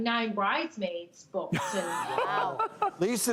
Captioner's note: laughter